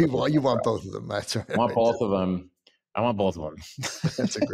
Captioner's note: laughs